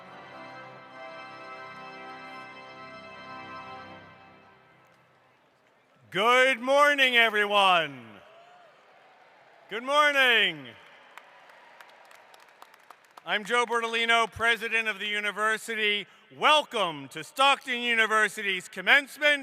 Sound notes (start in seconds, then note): 8.2 cheering